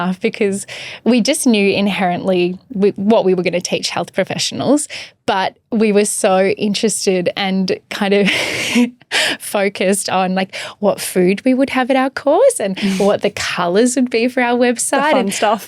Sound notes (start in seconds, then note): 8.6 laughing